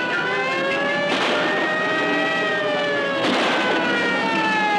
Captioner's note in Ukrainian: сирени кричать; постріли